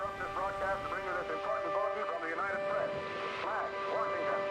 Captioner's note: man talking over P.A